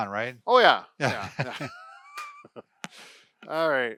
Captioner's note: laughing